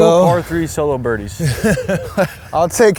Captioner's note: laughs